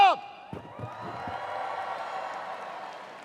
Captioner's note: cheers